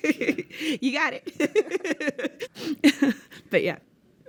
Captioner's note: laughs